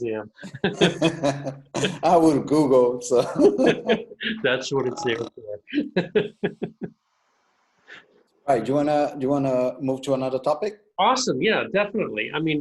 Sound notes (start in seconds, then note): 0.4 laughter; 5.8 laughs